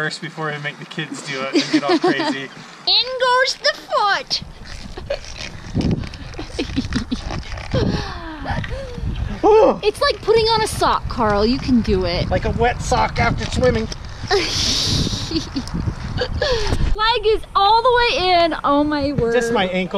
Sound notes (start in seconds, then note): 5.7 laughing